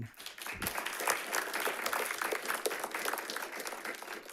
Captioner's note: audience applauding